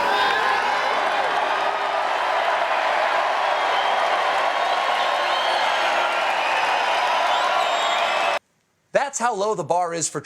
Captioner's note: cheers and applause